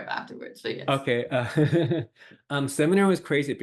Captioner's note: laughs